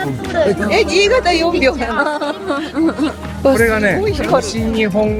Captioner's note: laughs